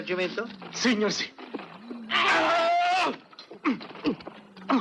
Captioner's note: grunting